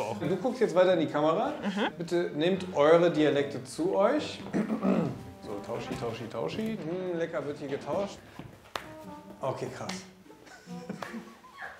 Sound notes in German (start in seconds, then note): 4.5 Räuspern; 10.4 Lachen